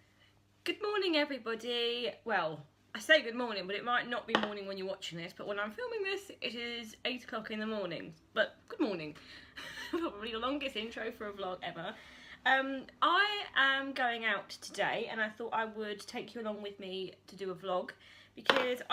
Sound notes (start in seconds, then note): 9.9 laughs